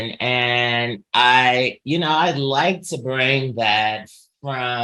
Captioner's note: none